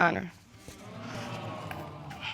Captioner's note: audience exclaiming